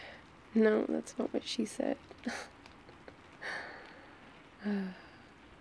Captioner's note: laughs